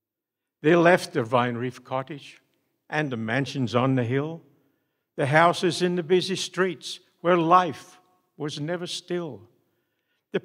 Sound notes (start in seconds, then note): none